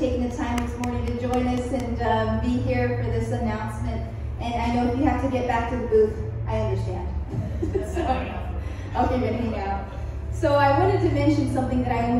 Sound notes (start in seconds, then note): 7.3 laughs